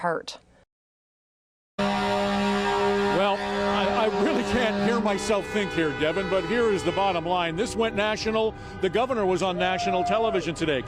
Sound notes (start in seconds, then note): 7.6 horn honking